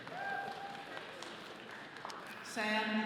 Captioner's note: all clapping